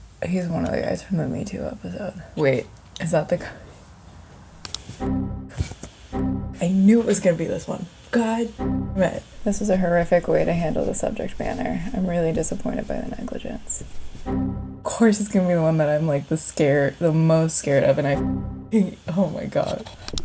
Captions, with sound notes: He's one of the guys from the "Me Too" episode. Wait is that the (boing sound) I knew it was gonna be this one. God (boing sound) "This was a horrific way to handle the subject matter. I'm really disappointed by the negligence." (boing sound) Of course it's gonna be the one that I'm like the most scared of and (boing sound) oh my God.